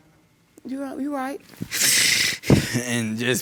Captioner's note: sobbing